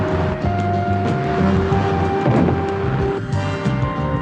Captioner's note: explosion